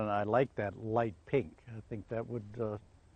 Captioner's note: voiceover